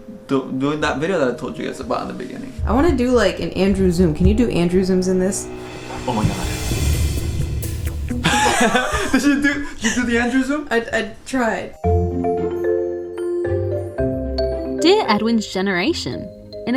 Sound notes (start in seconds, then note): 6.0 dramatic music; 8.1 laughs